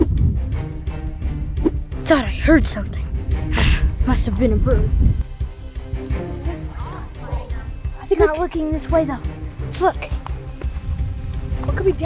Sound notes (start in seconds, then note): 0.0 whooshing; 3.4 grumbles